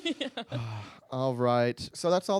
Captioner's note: laughing